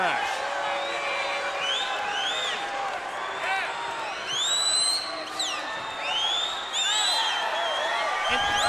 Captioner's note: crowd chatter; crowd cheering